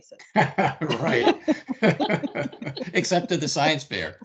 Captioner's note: everyone laughing